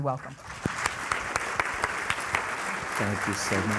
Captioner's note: applause